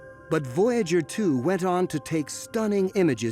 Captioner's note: none